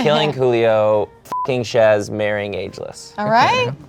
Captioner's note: beep